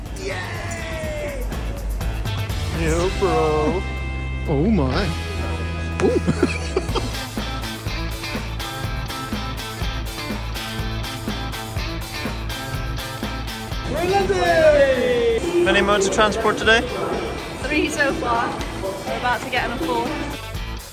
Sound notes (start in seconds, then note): 5.2 laughs; 7.6 inspirational rock music continues; 20.2 inspirational rock music continues